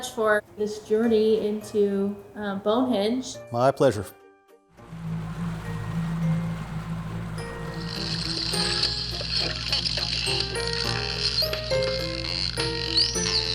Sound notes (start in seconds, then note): 4.8 sea water sound; 8.1 dolphin sounds